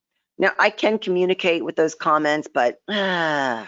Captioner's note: sighs